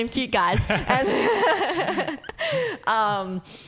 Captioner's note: laughing